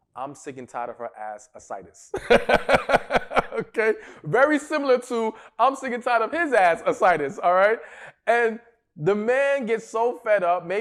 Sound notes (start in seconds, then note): 2.1 laughs